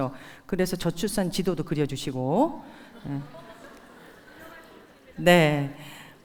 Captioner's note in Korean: 웃음